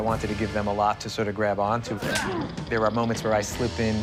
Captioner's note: grunting